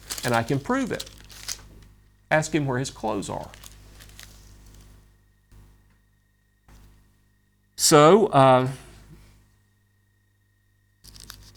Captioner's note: papers rustle; papers rustle